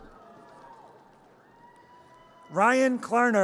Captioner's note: audience cheers